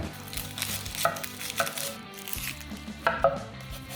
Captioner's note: chopping